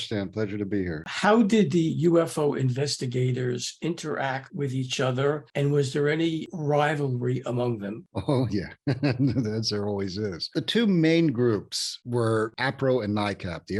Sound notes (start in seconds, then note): 8.1 laughs